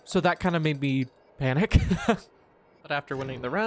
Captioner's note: more nervous laughter